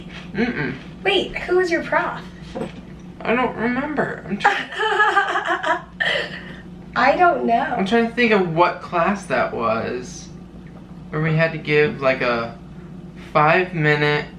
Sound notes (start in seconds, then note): 4.4 chuckling